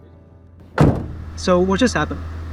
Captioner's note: car door slams